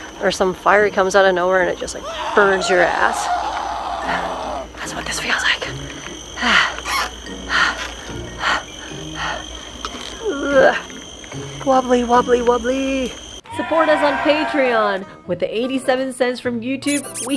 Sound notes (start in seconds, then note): 1.9 screams; 6.3 sighing; 10.2 groan; 13.5 cheers